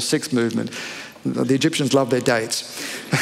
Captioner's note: laughter